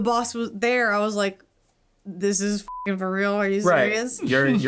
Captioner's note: beep